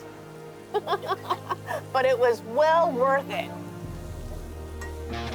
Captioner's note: laughs